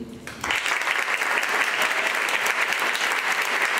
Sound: applause

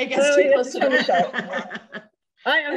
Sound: laughing

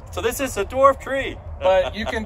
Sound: laughs

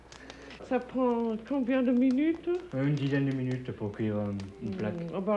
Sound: speaking french

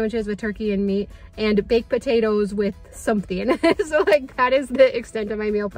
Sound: laughing

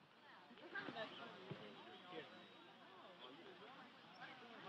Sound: students chattering

